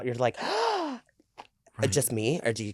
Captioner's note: gasps